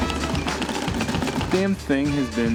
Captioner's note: rattling